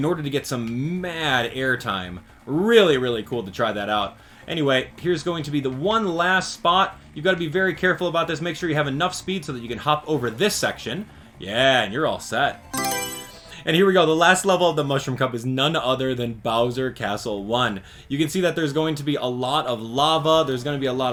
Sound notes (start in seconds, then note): 12.6 Mario Selection Sound